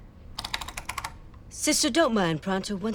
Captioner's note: in high-pitched voice